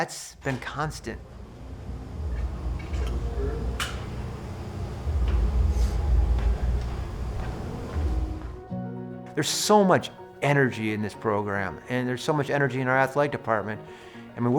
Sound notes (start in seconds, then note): 3.5 faintly speaks; 3.6 latch clicks; 6.9 gentle music